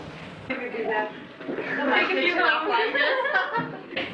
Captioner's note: women laughing